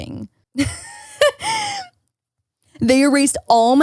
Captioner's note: laughs